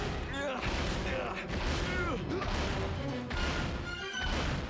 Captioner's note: grunting